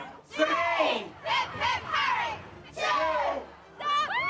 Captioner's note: crowd; fan screaming; crowd; fans cheering